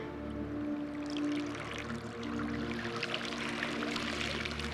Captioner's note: water dripping